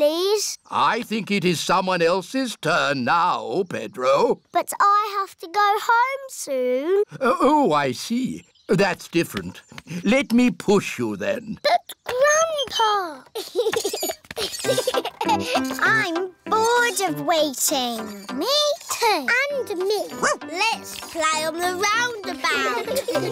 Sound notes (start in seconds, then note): 13.3 laughs; 20.1 barks; 22.4 laughter